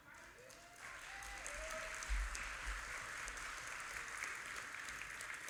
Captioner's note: audience applauding